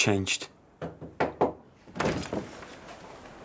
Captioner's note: knocking on door